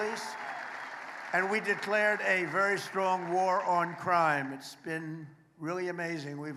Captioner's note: applause